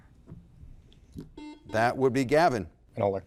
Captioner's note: buzzer blaring